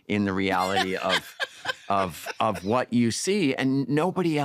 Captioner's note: laughter